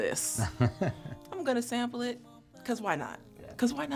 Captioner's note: laughter